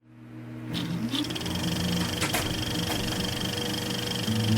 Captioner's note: film reel clicking